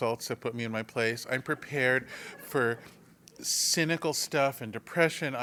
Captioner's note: laugh